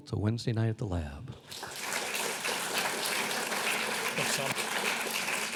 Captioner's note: clapping